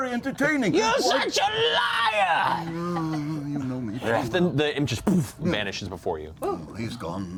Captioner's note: poof